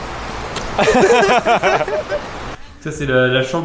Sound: laughes

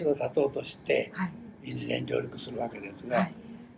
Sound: foreign language

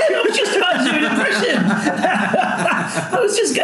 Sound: laughing

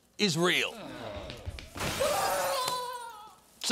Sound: groaning, glass shatters, screaming

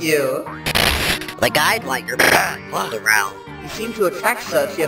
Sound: pfffft!

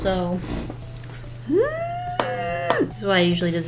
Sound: frustrated squeal

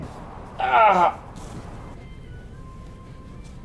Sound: groaning

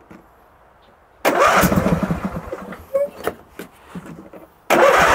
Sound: engine revs

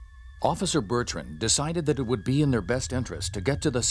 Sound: voiceover

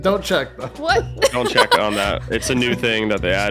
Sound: laughs

